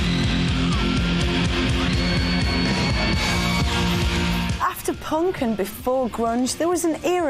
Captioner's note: crowd screaming